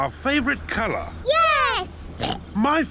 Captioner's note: oinks